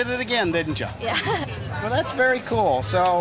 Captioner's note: giggles